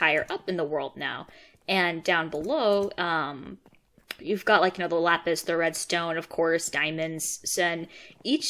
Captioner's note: click